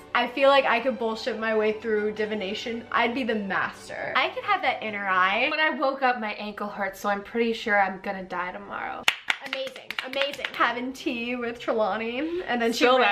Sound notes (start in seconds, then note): 9.0 both clapping